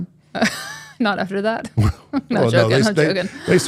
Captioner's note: laughs